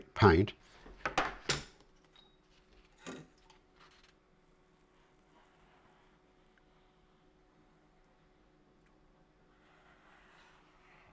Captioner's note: silence